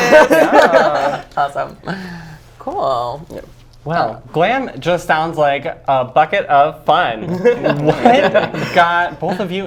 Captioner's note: laughs